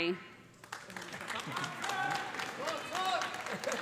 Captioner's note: applause